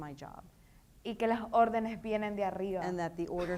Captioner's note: speaking in foreign language